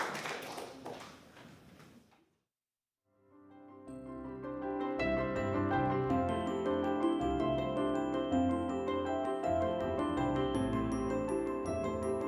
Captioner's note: applause